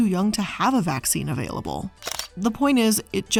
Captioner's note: camera shutter clicking